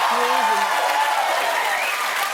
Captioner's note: cheers and applause